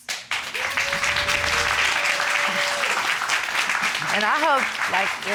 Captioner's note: applause